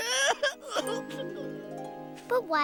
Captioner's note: whimpering